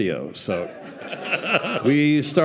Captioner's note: audience laughing